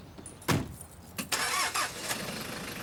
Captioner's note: car door clicks; car door thuds; car engine revving